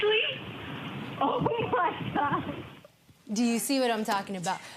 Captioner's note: laughing